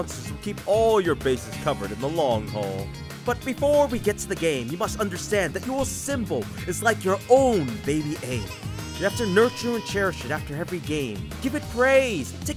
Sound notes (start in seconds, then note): 7.3 crying Souns effects